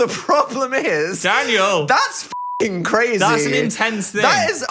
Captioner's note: beep